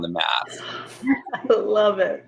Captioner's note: laughing